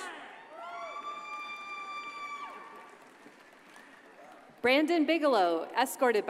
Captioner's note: audience cheers and applauds